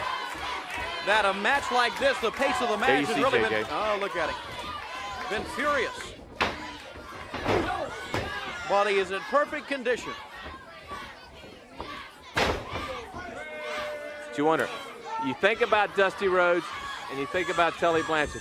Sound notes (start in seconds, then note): 0.0 crowd cheering; 7.3 crowd chatter; 12.4 crowd chatter